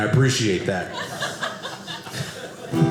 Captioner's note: audience laughing